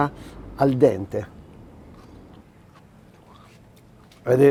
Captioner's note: crunchy sound